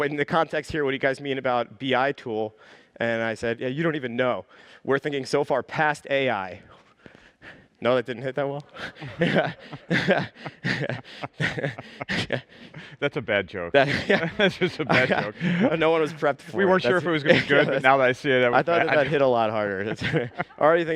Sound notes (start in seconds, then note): 8.7 chuckling